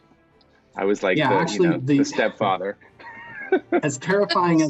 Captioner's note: laughs